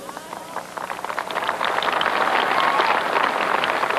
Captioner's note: clapping